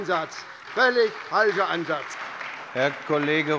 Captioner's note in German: Beifall bei der SPD